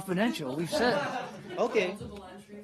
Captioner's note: laughter